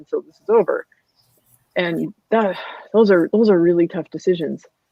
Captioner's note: sighs